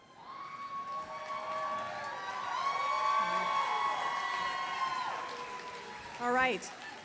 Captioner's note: applause, cheers